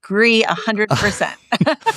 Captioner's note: laugh